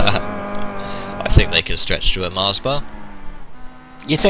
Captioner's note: laughing